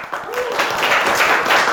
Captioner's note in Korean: 박수